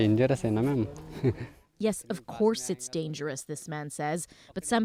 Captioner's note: speaking Foreign Language